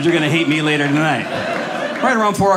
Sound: audience laughing

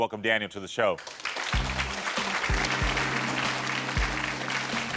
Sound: audience applauding; upbeat music

